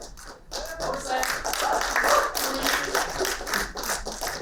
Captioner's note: applauding